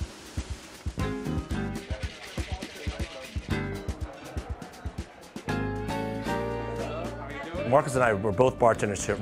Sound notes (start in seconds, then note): 1.5 cocktail shaker rattling